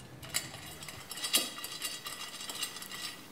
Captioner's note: erratic rattling